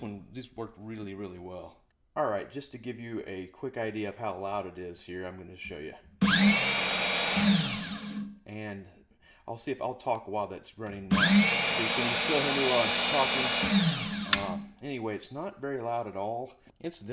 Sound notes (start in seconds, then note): 11.1 saw noise